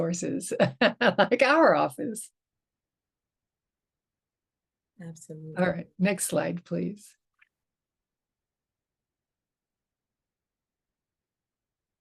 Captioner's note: chuckles